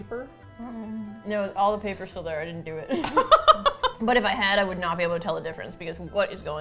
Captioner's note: laughs